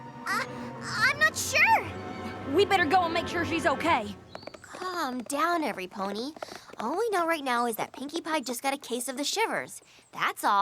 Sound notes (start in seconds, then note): 4.5 hoofbeats depart